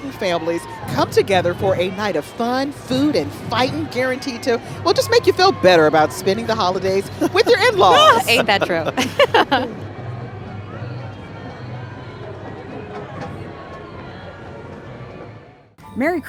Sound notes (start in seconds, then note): 7.2 laughing; 9.2 holiday music